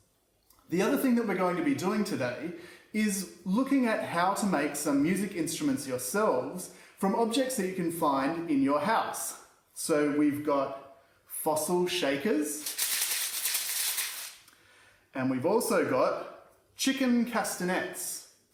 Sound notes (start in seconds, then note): 12.5 shaker rattles